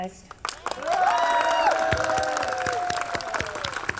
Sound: audience cheering

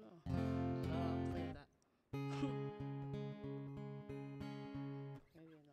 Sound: chuckles

